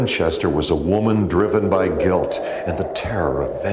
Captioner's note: wind howling